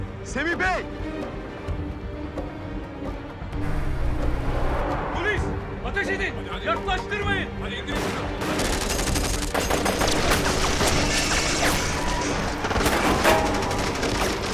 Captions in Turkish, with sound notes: Semih Bey! Polis, ateş edin! Yaklaştırmayın! (Silah sesleri)